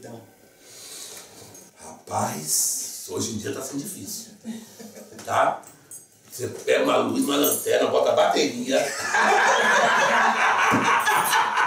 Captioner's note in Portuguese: lacht